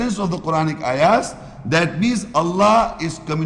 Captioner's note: Arabic